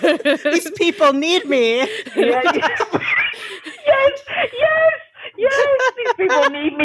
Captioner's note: all laughing